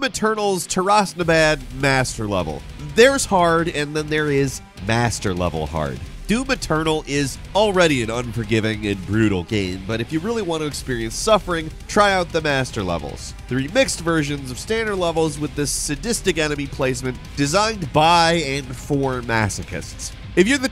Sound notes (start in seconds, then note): none